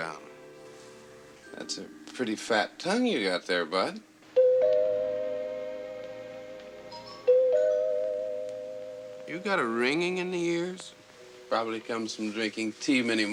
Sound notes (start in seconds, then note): 6.9 doorbell ringing